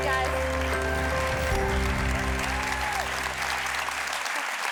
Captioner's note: audience applauding